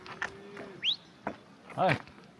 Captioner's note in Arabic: صفير في المسافة